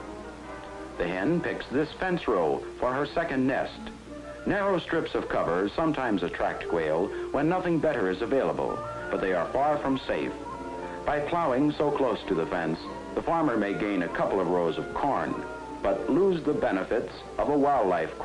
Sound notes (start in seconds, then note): none